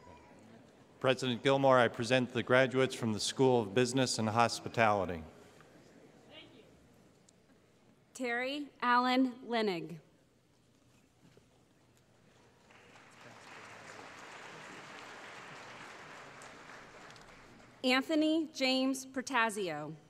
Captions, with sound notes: >> President Gilmour, I present the graduates from the School of Business and Hospitality. >> Thank you. Terry Alan Lenig [ Applause ] Anthony James Protasio